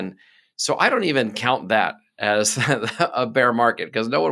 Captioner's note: laughing